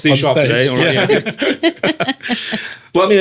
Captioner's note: laughing